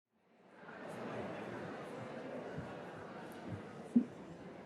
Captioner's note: crowd chatter